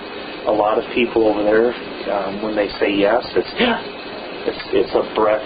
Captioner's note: inhale